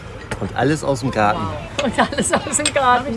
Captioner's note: laughs